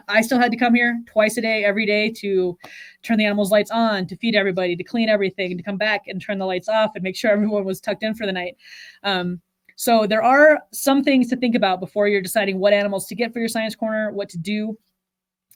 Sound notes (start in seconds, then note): none